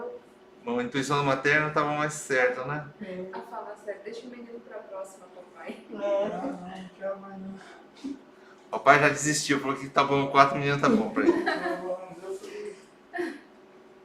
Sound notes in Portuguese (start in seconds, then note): 10.8 risos